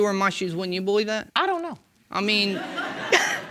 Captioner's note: audience laughing